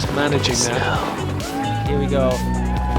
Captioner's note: people cheer